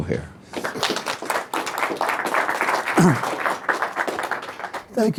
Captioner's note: audience applauding